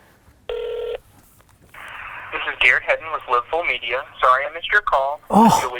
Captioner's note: phone ringing and goes to voicemail